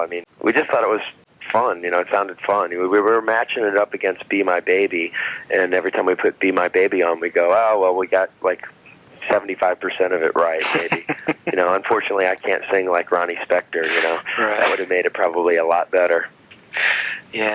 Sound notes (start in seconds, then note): 10.4 laughing